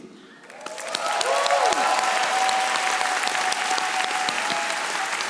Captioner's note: audience applauding